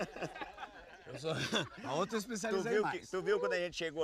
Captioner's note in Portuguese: risada